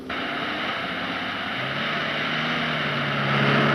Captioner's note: engine roaring